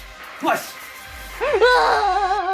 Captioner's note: scream